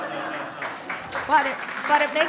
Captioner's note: laughter; applause